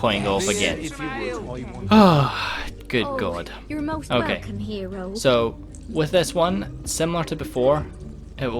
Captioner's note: deep Sigh